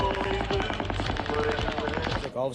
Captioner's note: gunfire